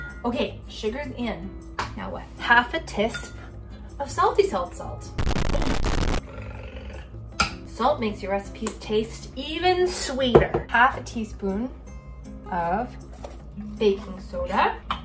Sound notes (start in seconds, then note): 5.1 static buzzes; 5.4 trilling tongue